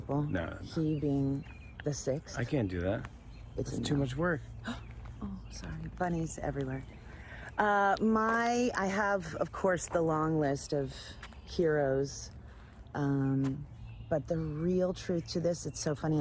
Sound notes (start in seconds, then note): 4.5 gasps